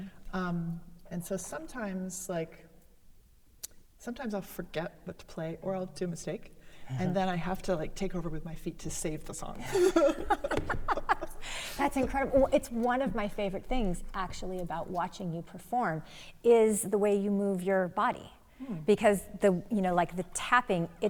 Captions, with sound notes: And so sometimes, like, I'll forget what to play or I'll do a mistake and then I have to like, take over with my feet to save the song. - (laughs) That's incredible. It's one of my favorite things actually about watching you perform is the way you move your body. Because, you know, like the tapping,